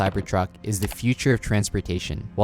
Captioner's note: cursor clicking; graphics shuffling